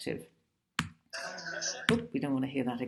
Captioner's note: chattering